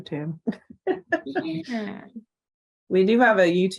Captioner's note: laughs